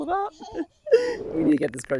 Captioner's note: laughs